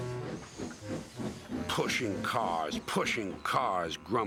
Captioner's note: birds twittering